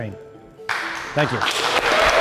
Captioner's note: audience clapping